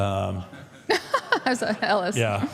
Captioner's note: Michelle laughs